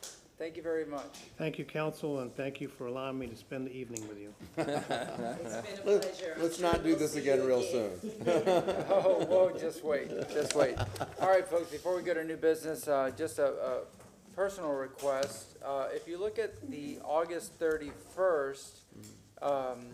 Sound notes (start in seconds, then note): 10.0 laughter